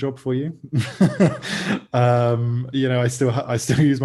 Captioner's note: laughs